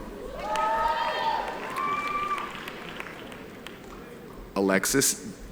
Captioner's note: audience applauding